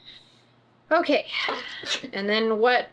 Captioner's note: sighs